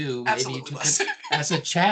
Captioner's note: laughing